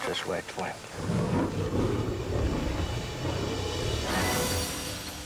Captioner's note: lion roars